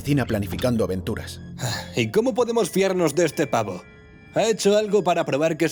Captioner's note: sighs